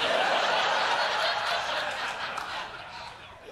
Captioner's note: laughter